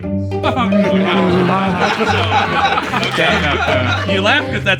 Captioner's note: laughter